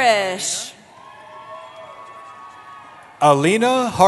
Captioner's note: cheering